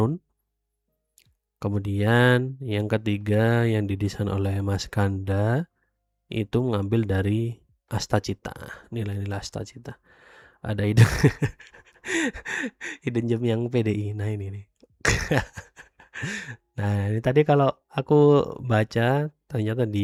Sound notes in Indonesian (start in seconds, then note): 11.0 tertawa; 11.7 terkesiap